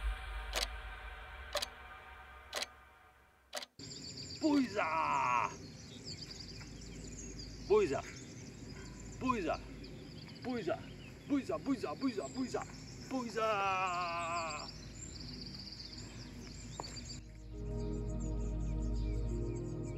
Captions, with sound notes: Boiza! Boiza, boiza, boiza, boiza, boiza, boiza, boiza, boiza. Boiza! (groaning) (gentle music)